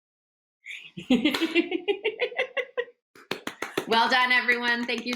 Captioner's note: laughing